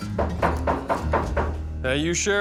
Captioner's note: knocking on door